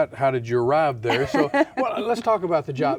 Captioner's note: laughs